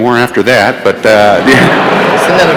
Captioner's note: laughter